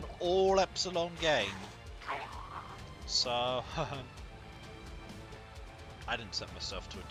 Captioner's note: nervous chuckling